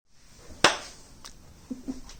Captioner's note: clap